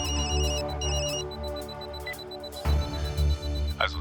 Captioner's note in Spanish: Suena el celular